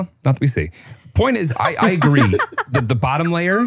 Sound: laugh

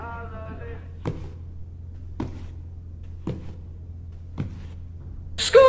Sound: footsteps

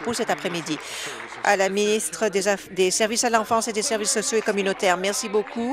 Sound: applause

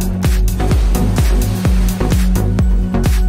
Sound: splash

